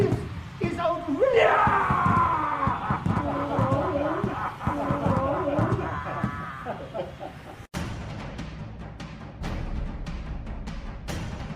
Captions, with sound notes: - This is outrageous- (Ragtooth roars) (group laughs) (slow dramatic music)